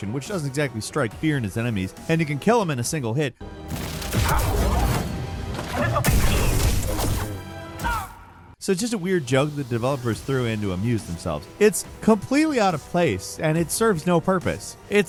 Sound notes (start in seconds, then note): 3.6 character smashes